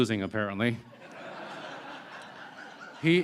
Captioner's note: laughter